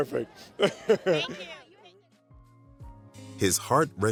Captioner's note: laughs